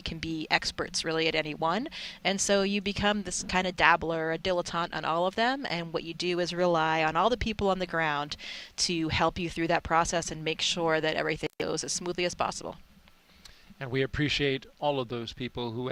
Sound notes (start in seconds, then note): none